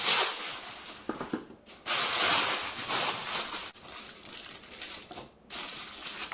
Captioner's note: foil crinkling noises